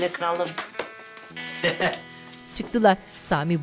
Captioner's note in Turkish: Gülme Sesi